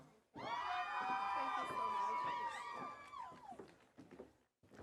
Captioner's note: audience cheering